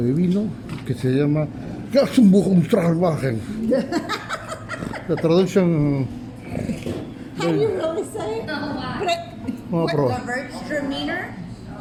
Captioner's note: laughs